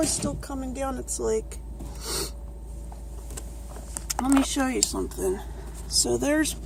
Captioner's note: sniffs